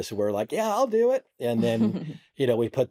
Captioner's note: chuckles